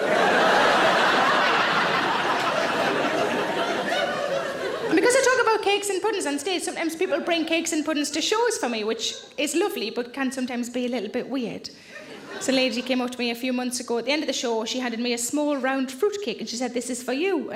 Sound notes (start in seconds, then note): 0.0 audience laughing; 12.0 audience chuckles